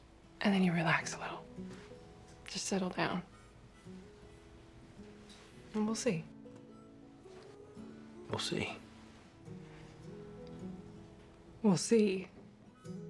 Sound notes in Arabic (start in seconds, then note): none